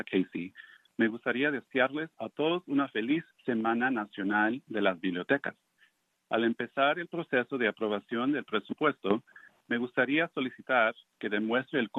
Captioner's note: speaking in spanish